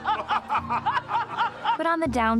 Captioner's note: evil laughs